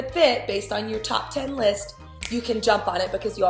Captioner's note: finger snap